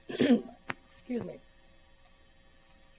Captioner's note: clears throat